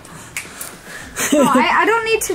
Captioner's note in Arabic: تضحك